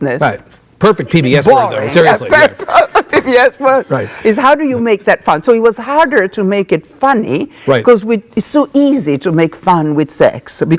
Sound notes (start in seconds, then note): 2.0 Isabella laughing